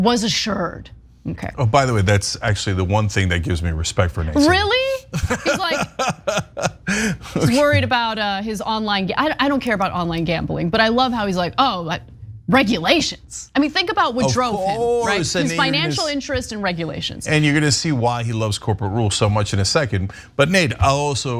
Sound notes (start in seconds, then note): 4.4 laugh